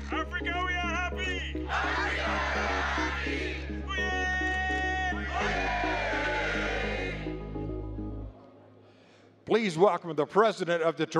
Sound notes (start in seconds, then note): 3.9 chanting